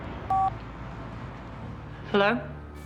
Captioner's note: phone beeping